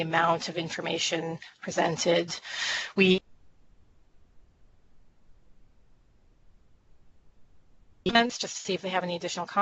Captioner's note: audio cut out